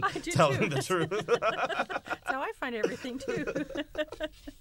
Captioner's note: laughter